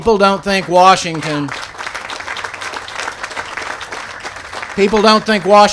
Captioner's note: applause